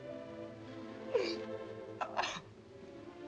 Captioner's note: sobbing